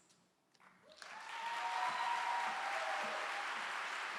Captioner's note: clapping